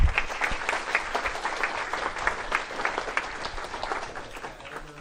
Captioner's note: applause